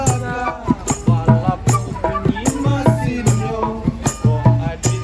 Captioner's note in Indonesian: Balapoh bunyi mesinnya